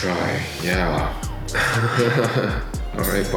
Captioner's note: laughing